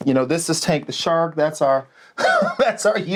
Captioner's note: laughing